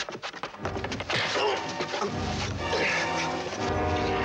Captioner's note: grunting